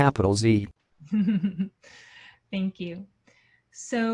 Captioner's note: laughs